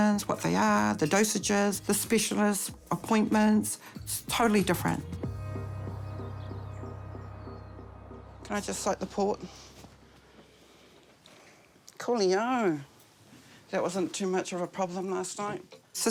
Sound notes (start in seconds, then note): 5.4 birds twitter